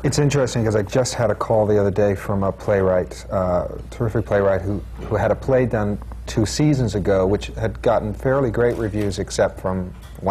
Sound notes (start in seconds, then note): none